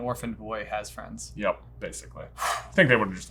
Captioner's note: sighing